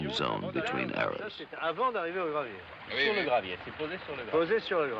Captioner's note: speaking french